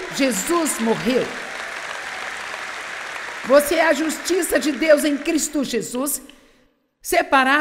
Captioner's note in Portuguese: audiência aplaude